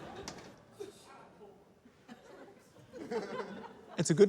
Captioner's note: scattered laughter